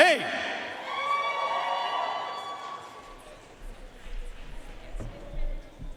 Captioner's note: audience cheering and applauding